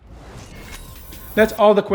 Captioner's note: whooshing